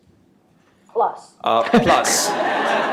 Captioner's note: laughter